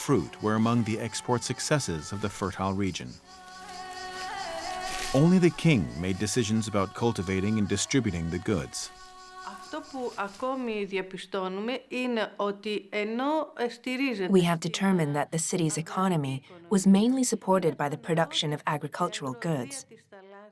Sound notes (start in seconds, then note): 9.4 speaking Greek